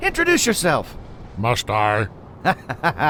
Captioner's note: laughs